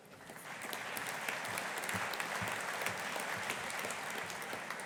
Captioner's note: audience applauding